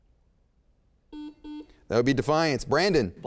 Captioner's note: beep